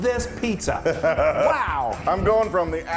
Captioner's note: laugh